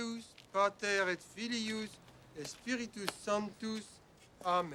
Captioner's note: priest praying in latin